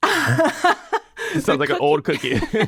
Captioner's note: person laughing